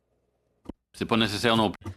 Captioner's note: speaking French